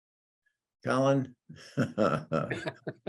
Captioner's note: laughs